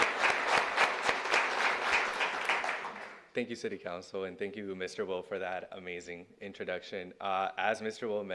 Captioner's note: cheers and applause